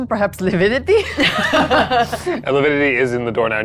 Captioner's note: chuckling